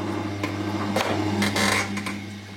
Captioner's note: creaking